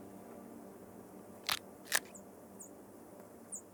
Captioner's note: case ripping